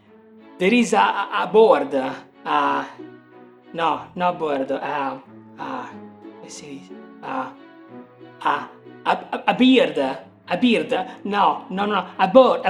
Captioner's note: speaking Italian